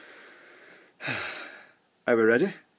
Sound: sigh

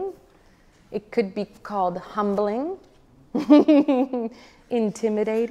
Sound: laughs

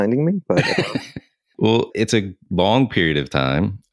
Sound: laughs

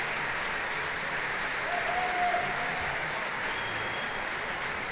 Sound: applauding continues

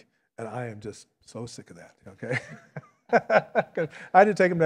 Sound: laughs

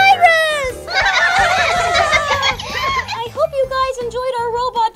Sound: laughing

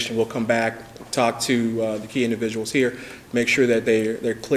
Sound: none

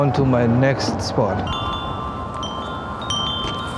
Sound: chimes

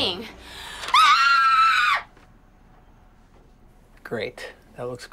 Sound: Grace screaming

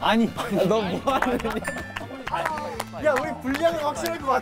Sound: haha

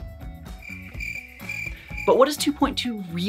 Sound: crickets chirping

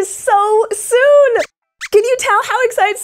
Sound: squeaks squeaks excitedly

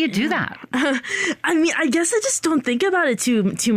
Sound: chuckles

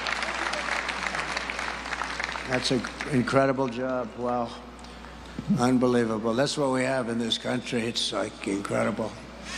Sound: applause

